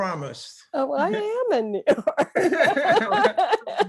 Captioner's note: laughing